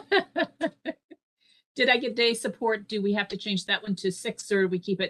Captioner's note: laughter